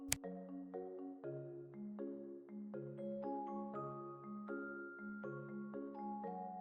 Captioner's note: scientific calculator buttons